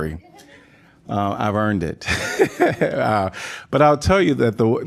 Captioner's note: laughter